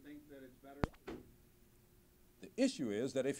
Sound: cut/silence

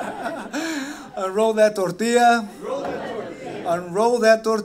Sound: laughter

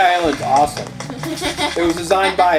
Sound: laughing

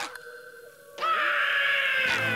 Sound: screaming

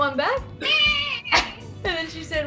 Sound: imitating cat meowing

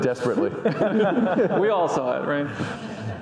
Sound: audience laughing

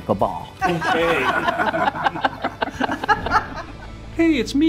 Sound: all laughing

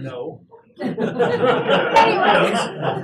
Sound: laugh

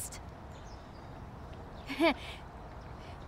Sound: chuckles

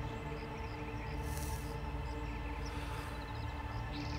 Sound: cigarette sizzling

